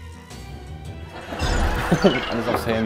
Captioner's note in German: Lachen, Flirren